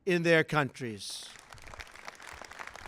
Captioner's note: applause